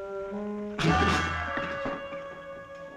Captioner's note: spitting aggressively